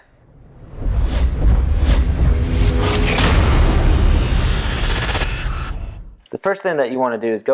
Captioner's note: sound effect